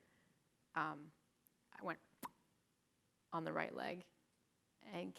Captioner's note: popping noise